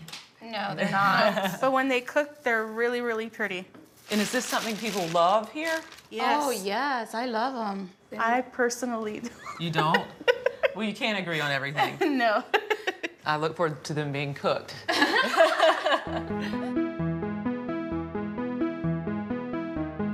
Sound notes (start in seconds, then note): 14.5 laughing; 16.0 upbeat music